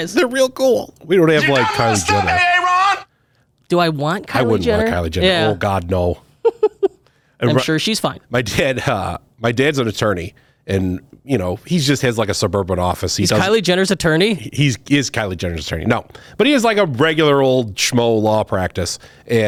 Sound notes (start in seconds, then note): 7.0 laughs